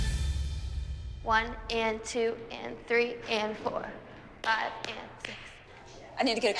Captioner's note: clapping